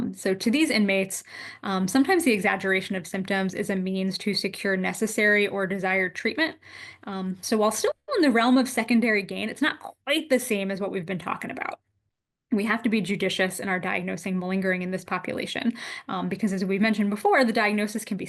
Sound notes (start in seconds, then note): none